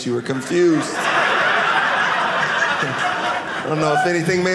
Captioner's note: audience laughing